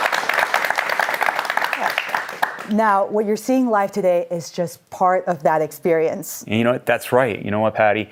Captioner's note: applause